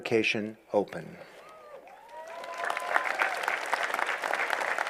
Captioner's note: applause